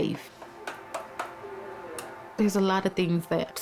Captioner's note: spoon clanks